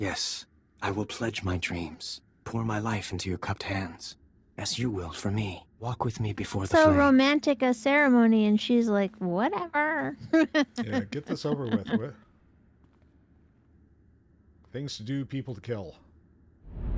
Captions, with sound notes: Yes, I will pledge my dreams. Pour my life into your cupped hands, as you will for me. Walk with me before the flame. So romantic a ceremony and she's like, whatever. (laughs) Yeah, get this over with. Things to do, people to kill.